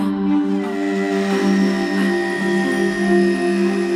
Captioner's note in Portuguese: Ruídos de máquina